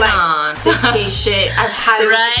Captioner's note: laughs